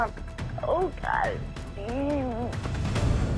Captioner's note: moaning